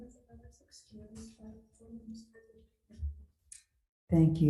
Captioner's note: woman speaks softly